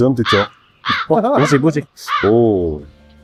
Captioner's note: haha